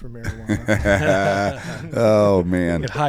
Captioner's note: group laughs